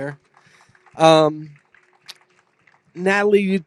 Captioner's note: applause